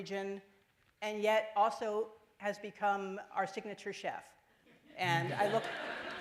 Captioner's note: laughter